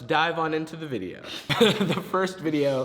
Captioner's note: group laughs